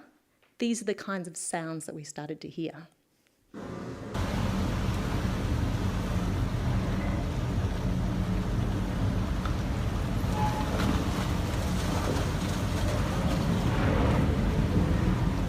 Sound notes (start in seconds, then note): 5.4 sounds of the ship moving through pack-ice